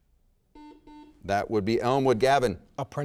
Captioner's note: buzzer rings